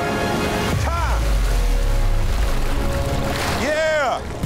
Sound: water splashing

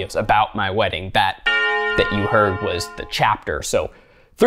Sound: bell tolls

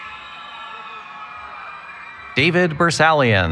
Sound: cheering

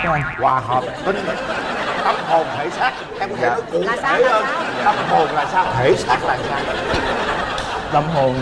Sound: laughter

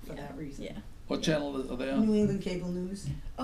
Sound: voiceover

